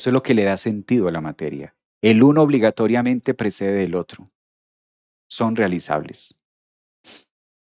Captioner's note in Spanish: resoplido